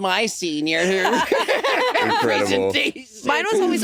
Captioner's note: all laughing